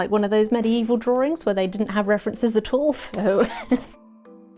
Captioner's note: laughs